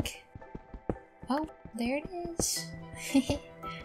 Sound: giggle

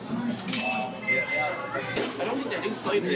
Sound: ring~~

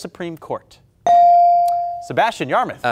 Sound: buzzer pings

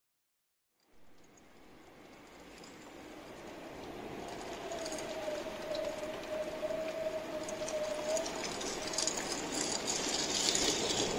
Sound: sound of rainfall

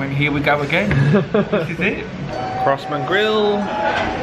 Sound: laughs

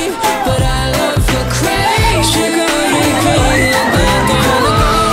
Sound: screaming

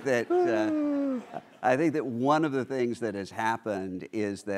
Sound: laughter

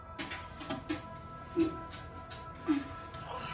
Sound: groans

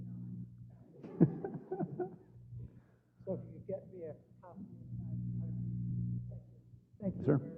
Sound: laugh

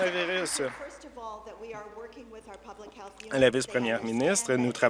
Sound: applause

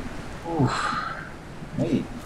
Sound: sighing

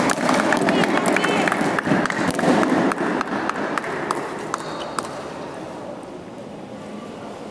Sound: applause

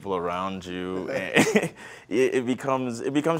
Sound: laughs

